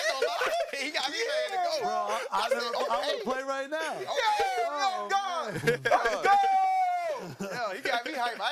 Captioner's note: yelling